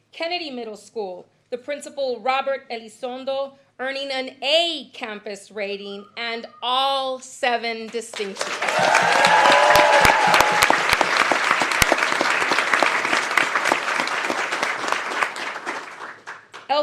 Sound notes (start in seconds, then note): 11.0 applause; 12.5 cheering